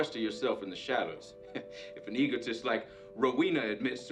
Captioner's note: chuckles